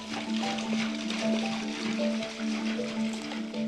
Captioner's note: horses trotting through water